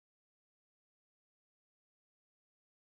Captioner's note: none